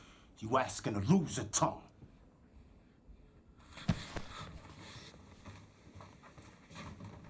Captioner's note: none